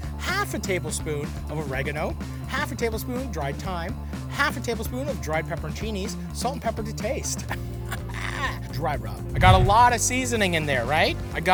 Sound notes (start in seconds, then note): 8.1 cackles